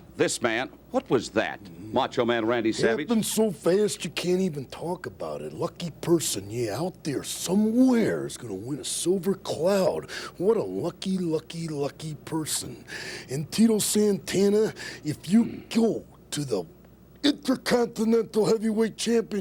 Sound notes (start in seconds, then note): none